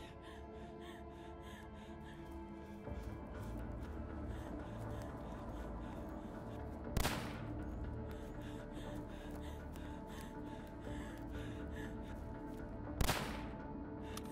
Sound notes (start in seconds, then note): 3.6 suspenseful music; 7.0 gun firing